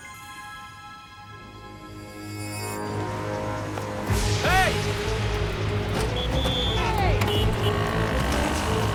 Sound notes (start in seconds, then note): 6.0 whistle blows